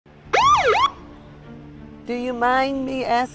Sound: police sirens blaring

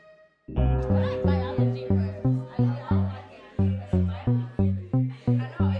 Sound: students murmuring

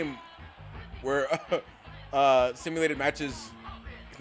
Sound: laugh

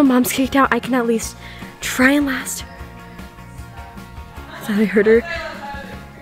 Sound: distant talking

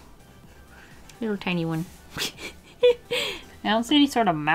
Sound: giggles

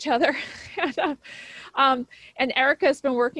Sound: chuckles

